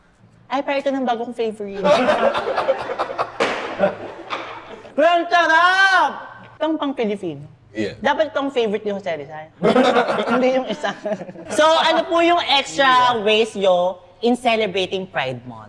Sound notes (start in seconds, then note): 1.8 everyone laughs; 9.6 laughs